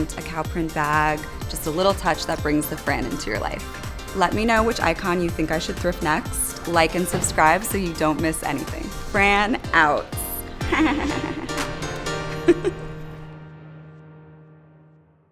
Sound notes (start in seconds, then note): 10.6 laughing; 12.7 music fades